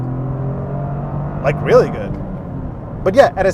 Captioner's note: engine revving